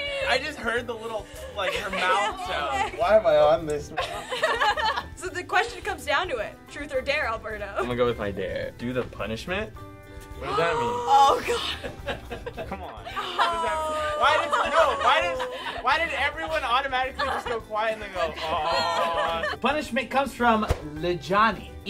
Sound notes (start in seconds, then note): 3.9 laughter; 10.9 others gasping; 12.0 laughing